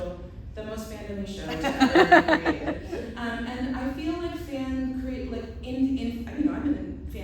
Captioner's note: laughter